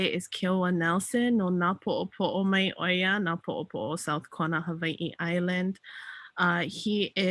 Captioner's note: speaks in native language